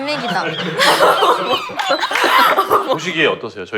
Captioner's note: squeak squeak